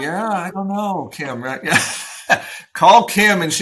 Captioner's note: laughs